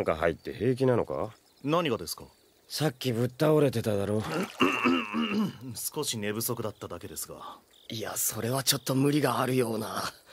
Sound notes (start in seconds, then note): 4.4 clears throat